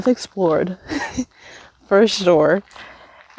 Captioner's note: laughs